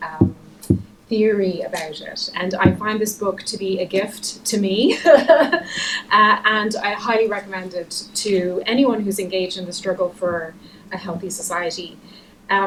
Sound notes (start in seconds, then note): 4.8 laughter